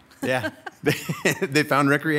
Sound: laughing

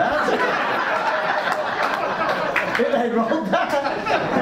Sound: audience laughs

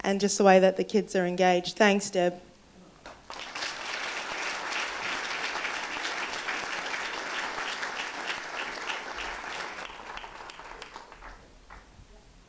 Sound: applause

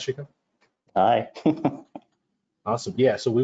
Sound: laughs

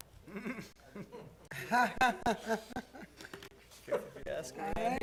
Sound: laughter

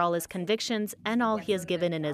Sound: speaking French

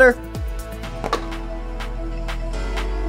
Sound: laptop shutting; upbeat music continued

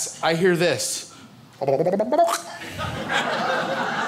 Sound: gurgles; crowd laughs

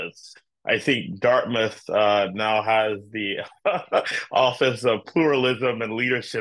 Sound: laugh

